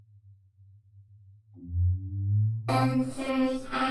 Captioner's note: hummmm!